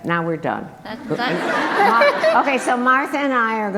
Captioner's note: group laughter